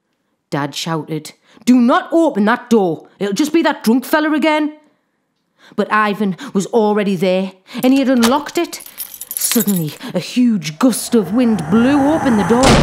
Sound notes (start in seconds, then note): 7.8 keys jangle; 10.6 whoosh